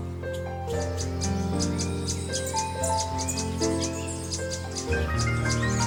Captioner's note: birds chirping